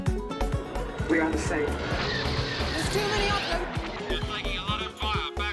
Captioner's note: robot voice